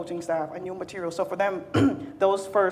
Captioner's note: clears throat